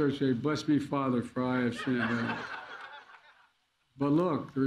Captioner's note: laughter